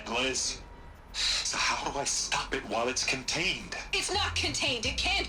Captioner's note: sigh